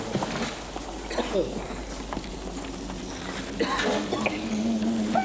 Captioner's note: excavators coughing